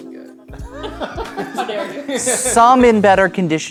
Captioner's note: players laughing